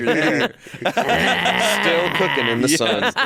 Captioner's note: all laughing